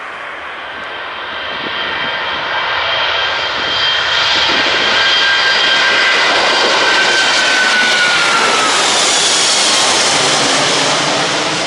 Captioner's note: loud sound of jet engines